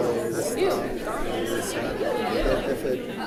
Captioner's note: crowd chatting